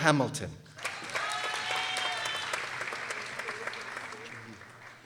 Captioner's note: people applauding